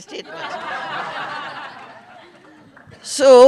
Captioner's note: laughter